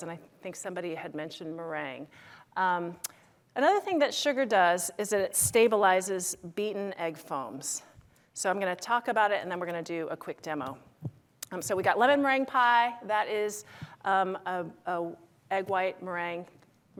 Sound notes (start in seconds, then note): none